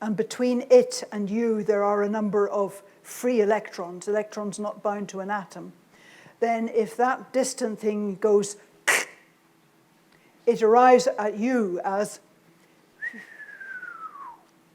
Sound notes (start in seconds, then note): 8.1 imitates object cracking; 13.0 whistles